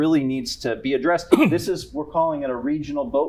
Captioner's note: coughs